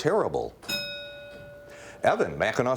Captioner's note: bell rings